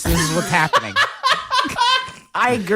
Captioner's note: laughs, very audible